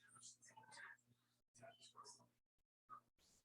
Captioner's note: none